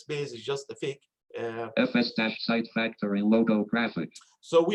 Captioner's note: automated Voice